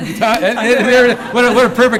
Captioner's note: laughter